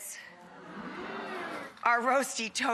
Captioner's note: crowd oohing